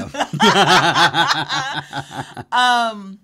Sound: both laugh

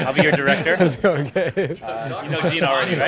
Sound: laughing

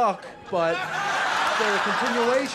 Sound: crowd laughs

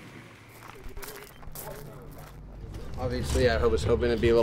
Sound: rocks crunching

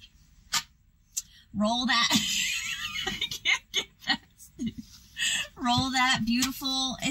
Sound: clap; laughter

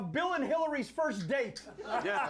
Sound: laughter

